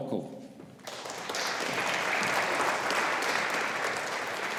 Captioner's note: audience applauding